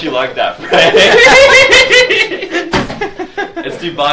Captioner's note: audience laughs